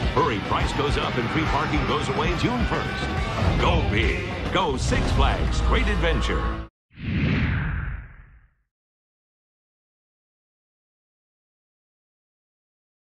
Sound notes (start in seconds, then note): 7.0 wind whooshing